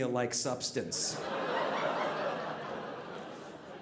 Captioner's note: audience laughing